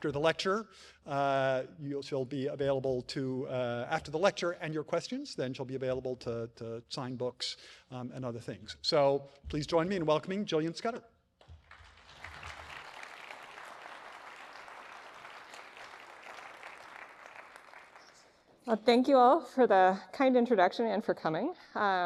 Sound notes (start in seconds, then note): 11.4 clapping